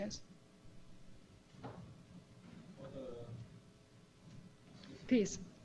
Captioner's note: pause